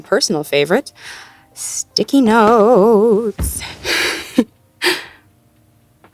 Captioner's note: singsongy